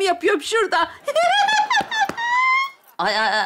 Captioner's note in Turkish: Gülme sesi